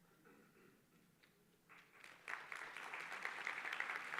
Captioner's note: applause